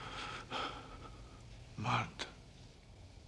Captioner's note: breathes deeply